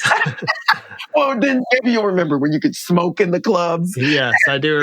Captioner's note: laughter; laughter